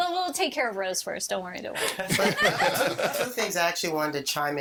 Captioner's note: all laughing